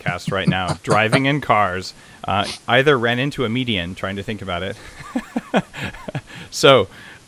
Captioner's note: laughs